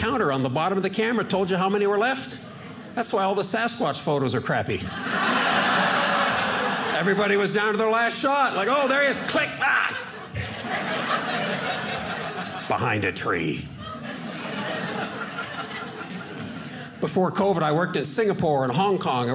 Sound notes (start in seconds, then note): 5.4 audience laughing; 10.4 audience laughing